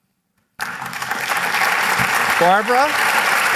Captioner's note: applause